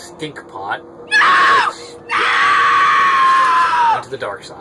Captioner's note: woman screaming 'No'